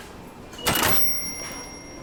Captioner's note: beeps